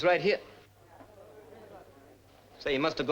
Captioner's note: people chatting